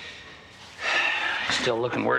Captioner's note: Nash sighing